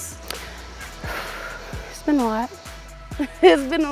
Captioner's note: sighs; chuckles